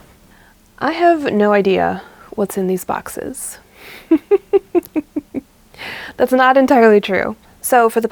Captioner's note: laughs